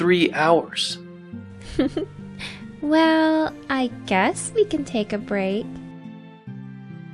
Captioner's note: giggles